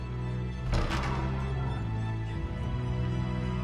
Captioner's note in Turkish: Kapı Gıcırtısı Sesi